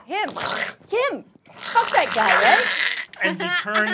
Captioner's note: snarling